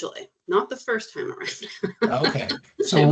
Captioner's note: chuckling